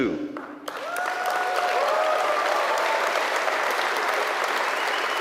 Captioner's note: audience applauds and cheers